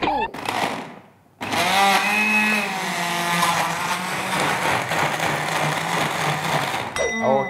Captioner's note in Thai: เสียงเครื่องปั่น